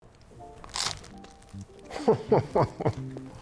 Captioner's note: gentle music; crust crunching; laughing